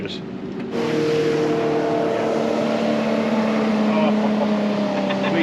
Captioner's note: boat engine running